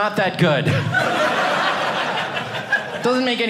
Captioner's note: audience laughing